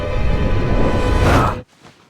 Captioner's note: screams